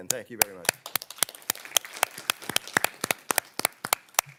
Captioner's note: everyone claps